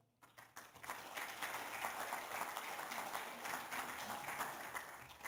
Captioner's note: applause